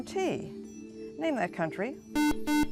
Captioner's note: buzzer